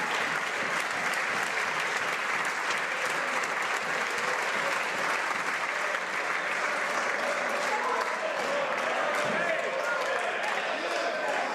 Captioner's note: some Applause